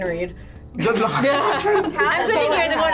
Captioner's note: group laughs